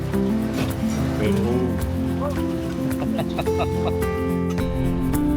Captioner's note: laughing; upbeat music